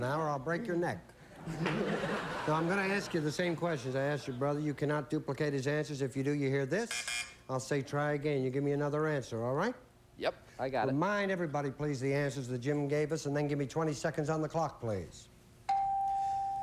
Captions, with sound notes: OR I'LL BREAK YOUR NECK. [LAUGHTER] NOW I'M GONNA ASK YOU THE SAME QUESTIONS I ASKED YOUR BROTHER. YOU CANNOT DUPLICATE HIS ANSWERS. IF YOU DO, YOU HEAR THIS. [BUZZ BUZZ] I'LL SAY, "TRY AGAIN." YOU GIVE ME ANOTHER ANSWER. ALL RIGHT? YEP, I GOT IT. REMIND EVERYBODY, PLEASE, THE ANSWERS THAT JIM GAVE US, AND THEN GIVE ME 20 SECONDS ON THE CLOCK, PLEASE.